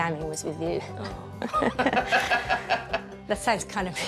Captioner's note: chuckles